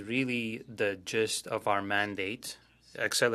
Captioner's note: speaking French